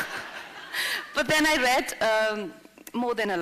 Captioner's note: laughter